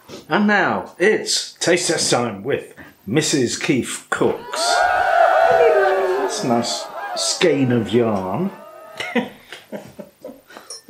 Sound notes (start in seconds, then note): 4.3 cheerin